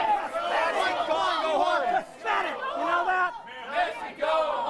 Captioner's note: crowd chanting